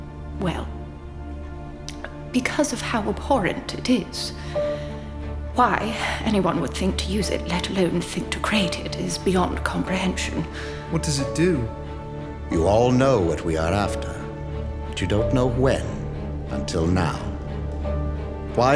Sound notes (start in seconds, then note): none